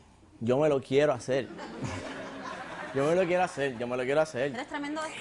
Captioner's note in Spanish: Risas